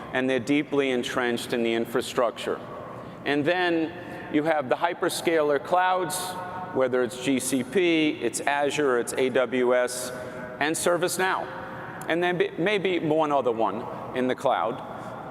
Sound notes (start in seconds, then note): none